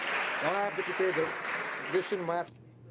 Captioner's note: some Applause